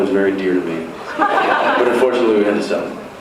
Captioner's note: laughs